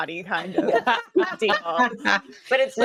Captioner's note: cast members laughing